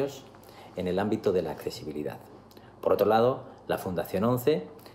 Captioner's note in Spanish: habla en inglés